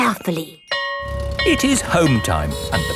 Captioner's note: school bell ringing